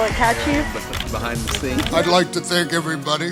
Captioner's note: camera clicking